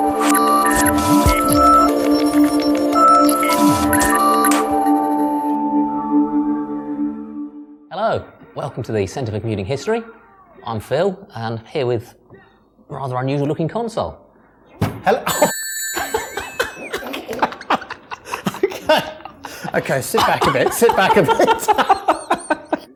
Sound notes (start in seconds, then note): 14.8 bang; 16.5 laughing; 21.6 more laughing